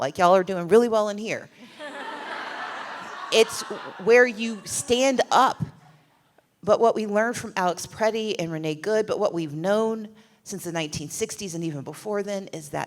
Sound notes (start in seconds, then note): 1.6 laughter